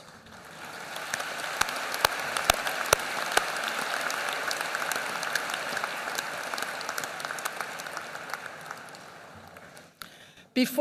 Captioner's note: applause